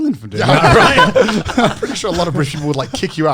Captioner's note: men laughing